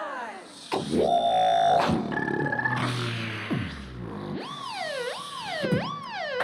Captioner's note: beatboxing